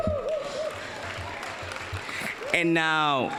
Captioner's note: applause